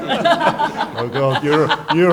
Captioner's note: laughter